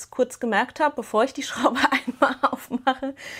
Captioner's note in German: Gelächter